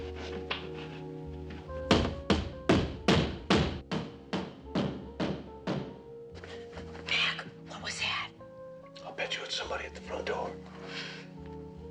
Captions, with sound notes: [banging on door] [whispering] Mac, what was that? [whispering] I'll bet you it's somebody at the front door.